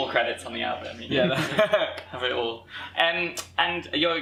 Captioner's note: laughter